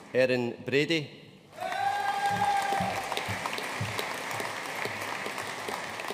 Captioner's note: audience cheering and applauding